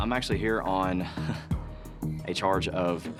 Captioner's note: chuckles